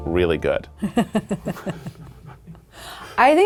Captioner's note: laughing